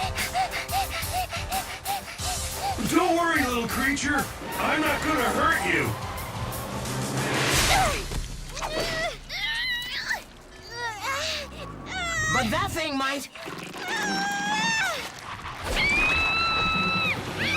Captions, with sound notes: (PANTING) Don't worry, little creature, I'm not going to hurt you. (GROANING) But that thing might! (SCREAMING)